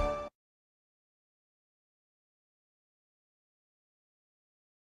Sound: upbeat orchestral music; silence

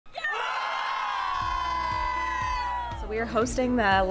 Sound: students Cheering

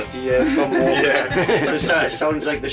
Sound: laughs

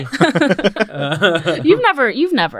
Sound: all laughing

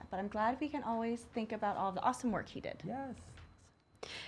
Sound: none

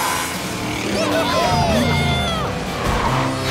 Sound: cheering

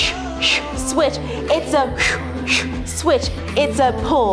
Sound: whistles

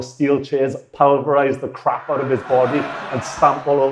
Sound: audience laughing

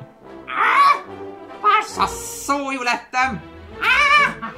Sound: screams

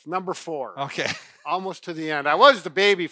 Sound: laughs

